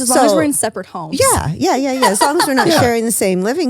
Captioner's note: laughs